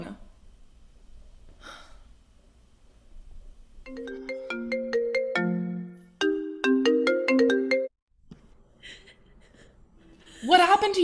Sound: cell phone ringing

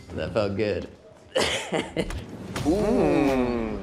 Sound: Dave laughing

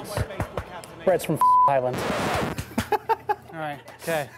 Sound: beep; laughter

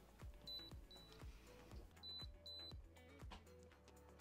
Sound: device beeps

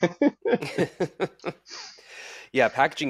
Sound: chuckling

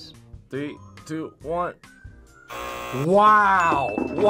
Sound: buzzer; bell rings

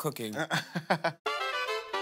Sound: chuckles; groovy music

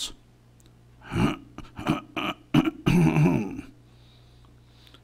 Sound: throat clearing sound

